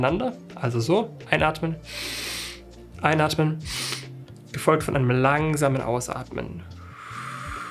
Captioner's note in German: schnauben